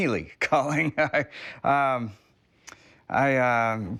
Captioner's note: laughs